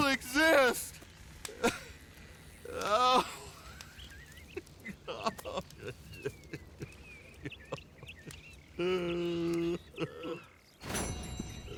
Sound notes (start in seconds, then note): 2.6 Jeremiah begins to sob at Arthur's feet